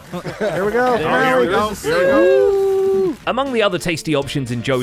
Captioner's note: crowd cheering; fireworks exploding